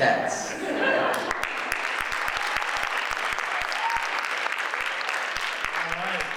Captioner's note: audience laughing and applauding